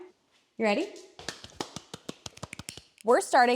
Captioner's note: friends clapping